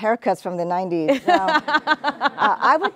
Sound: all laughing

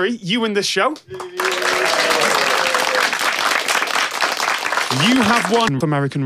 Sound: applause

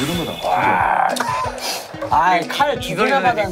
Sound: laugh

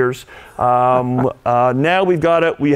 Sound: laughing

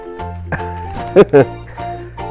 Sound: laughs

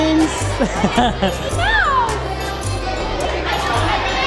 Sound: laughing

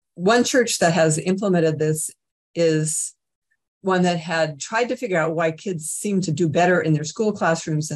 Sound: none

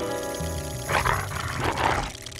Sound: growls

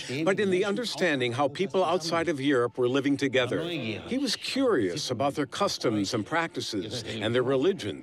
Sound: none

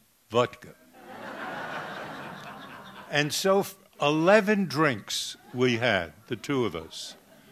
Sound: laughter

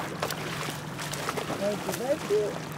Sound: fish splashing

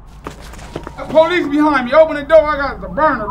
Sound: doorbell

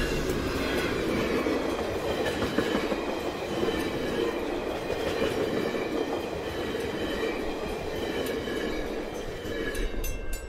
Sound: passenger car trucks whooshing over crossing

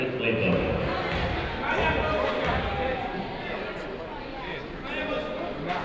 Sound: people talking in the crowd

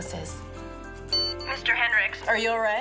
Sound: emergency support necklace beep

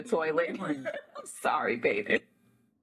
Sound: laughing

